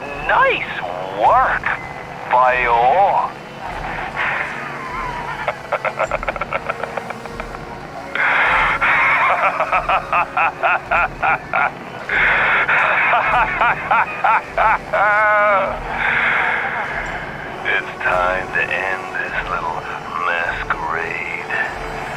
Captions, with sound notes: Nice work boyo *Maniacal Laughter* It’s time to end this little masquerade.